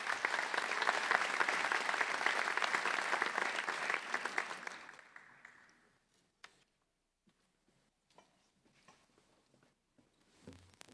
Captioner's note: applause